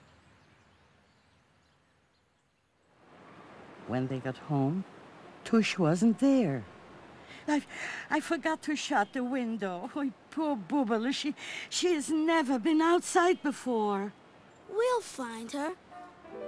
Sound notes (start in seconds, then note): 0.0 birds chirping; 3.0 street noise